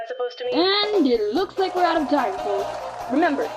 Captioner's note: audience cheers